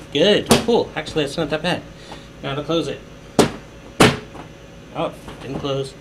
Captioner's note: bang